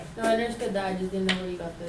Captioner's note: voiceover